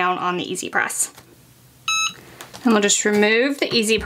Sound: machine beeps

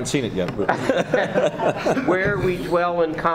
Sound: laughing

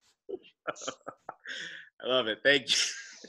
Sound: laughs

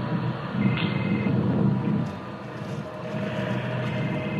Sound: ringing

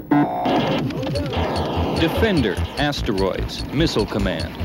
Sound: digital beeps

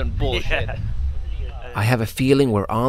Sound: laughs

